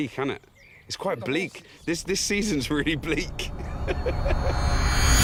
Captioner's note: laughs